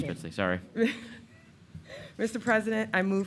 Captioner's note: laughing